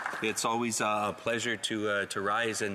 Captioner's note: applause